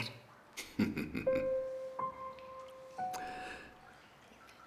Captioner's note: Thomas laughs